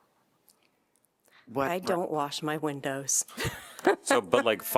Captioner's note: laughter